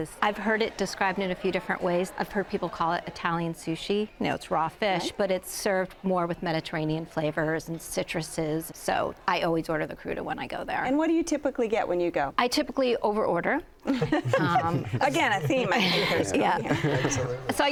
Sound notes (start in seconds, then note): 13.8 laughing